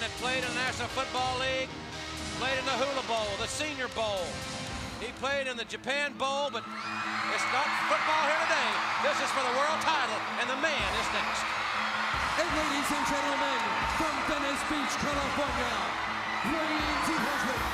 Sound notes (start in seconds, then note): 10.5 crowd cheering